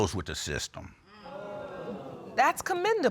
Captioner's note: audience exclaiming